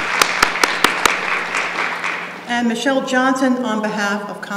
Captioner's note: applause